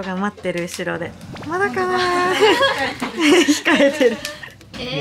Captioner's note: laughs